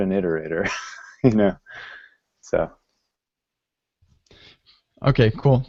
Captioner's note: laughs